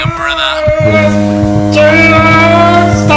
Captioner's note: device buzzing